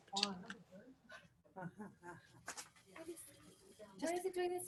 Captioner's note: background muffled chatting